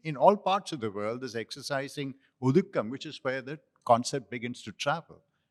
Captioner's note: non-english